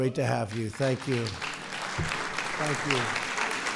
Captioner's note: applause